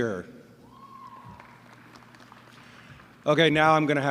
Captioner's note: applause